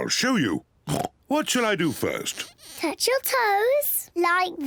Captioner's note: oinks